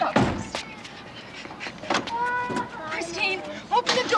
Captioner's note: child crying